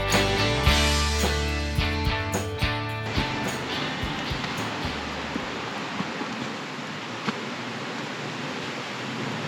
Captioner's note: foosteps